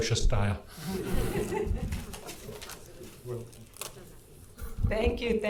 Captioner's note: audience laughing